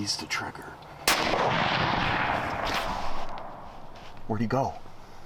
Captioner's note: gunshot blasts